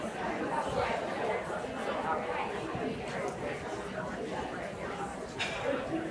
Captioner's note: audience chatter continues